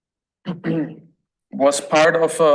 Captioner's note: throat clears